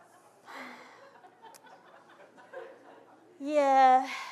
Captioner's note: audience laughing; sighs